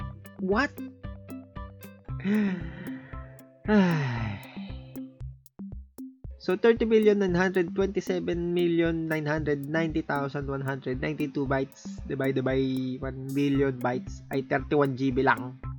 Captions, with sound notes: WHAT?! *SIGH* So 30,927,990,192 bytes divided by 1,000,000,000 bytes is only 31 GB.